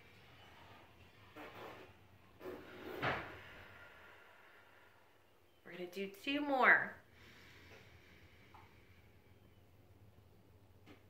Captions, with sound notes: We're gonna do two more. (deep breathing)